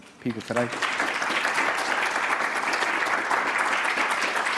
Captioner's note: audience applauding